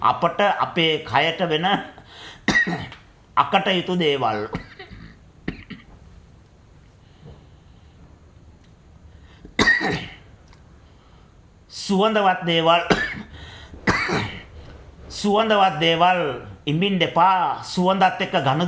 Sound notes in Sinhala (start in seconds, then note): 4.4 උගුර කෑරීම